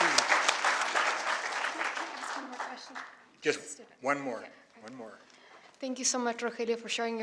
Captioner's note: applause